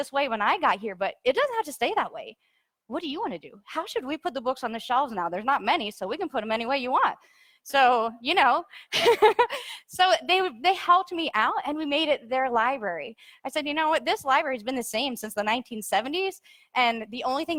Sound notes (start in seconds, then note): 9.0 laughs